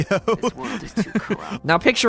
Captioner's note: chuckling